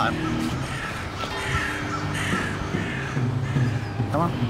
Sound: birds squawking; bell ringing

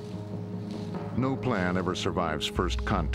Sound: voiceover

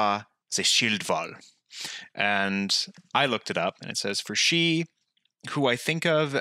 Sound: reading Anglo-Saxon

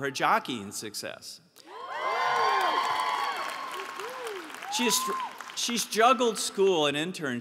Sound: applause

